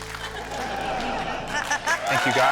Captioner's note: laughter